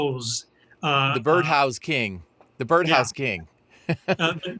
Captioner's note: laughing